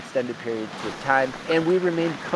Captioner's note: rain tapping